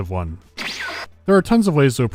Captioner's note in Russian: вущь